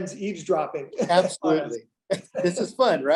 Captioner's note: laughs